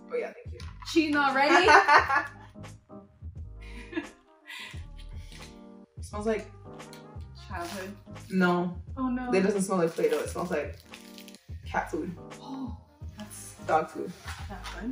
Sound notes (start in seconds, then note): 2.0 Winnie laughs; 3.7 chuckles; 12.7 surprised gasp